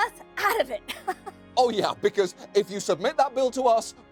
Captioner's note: laughs